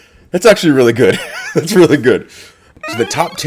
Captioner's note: laugh